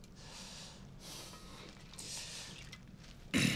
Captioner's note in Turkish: Hızlı nefes alıp veriyor